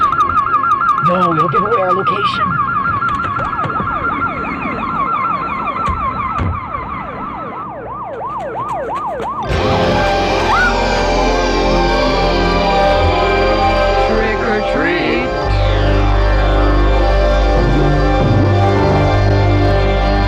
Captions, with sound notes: (alarm blaring) - No, it'll give away our location. (siren blaring) (ominous sci-fi music) (screams) - Trick or treat. (ominous sci-fi music)